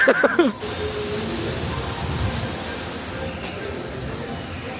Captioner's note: laughs; water whooshing